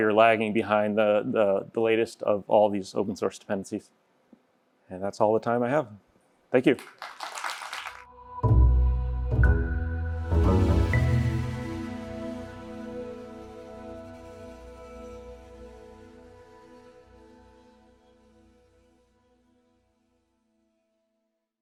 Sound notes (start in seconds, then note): 6.6 applause; 9.6 audio logo